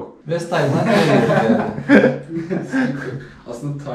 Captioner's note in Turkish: Gülüşmeler